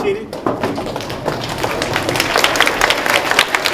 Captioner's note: applause